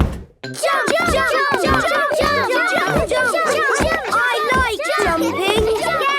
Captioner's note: all shouting "Jump! Jump!"